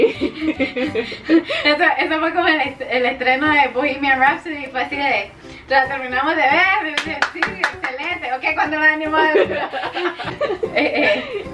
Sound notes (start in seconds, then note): 6.9 claps